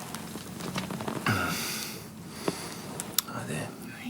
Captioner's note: John groans